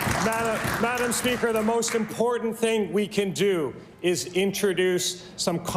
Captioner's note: applause